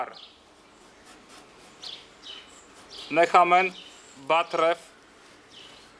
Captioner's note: reading in Hebrew